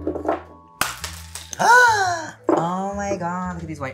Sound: gasps

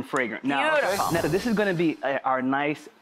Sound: air whooshing; chimes tinkling

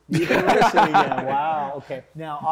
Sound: laughter

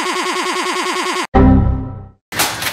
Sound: Windows XP Error Sound

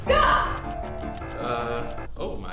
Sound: clock ticking

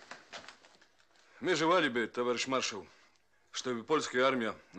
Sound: with a Polish accent

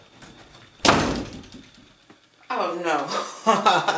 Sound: door slams

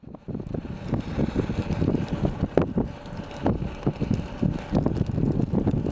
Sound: fire crackling

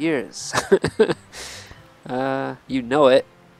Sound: laughs

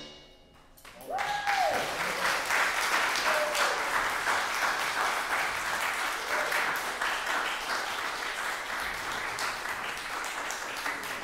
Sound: applause

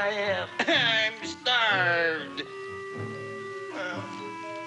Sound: cries

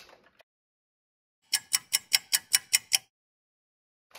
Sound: sound of a ticking clock

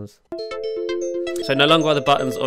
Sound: alarm chimes

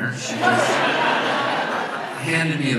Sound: audience laughs

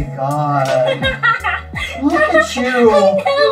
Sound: Vanessa laughing

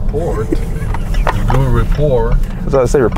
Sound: laughing

